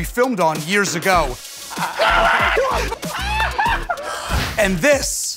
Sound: laughter

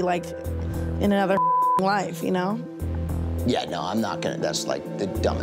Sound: beep

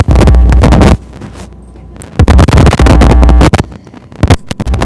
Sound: static

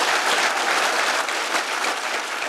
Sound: applause

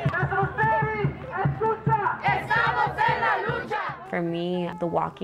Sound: protesters chant in Spanish

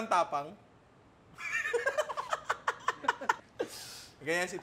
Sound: laughs

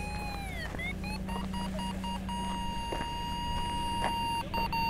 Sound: machine squealing; machine beeping

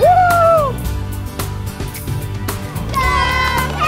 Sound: cheering

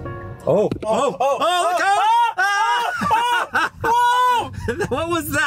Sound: screaming

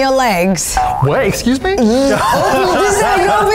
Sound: laughs

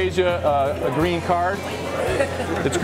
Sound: laughter

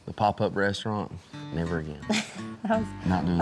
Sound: laughs

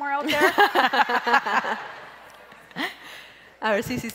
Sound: crowd laughs

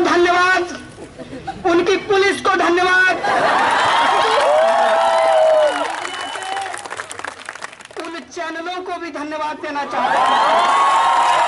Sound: resounding cheers

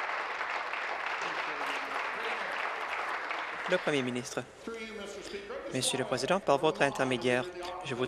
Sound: applause

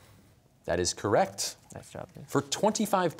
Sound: quietly

